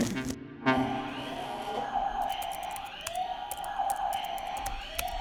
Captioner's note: fire engine toy sirens